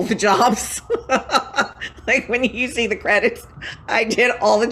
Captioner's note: laughing